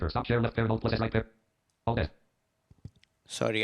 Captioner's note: rapid reading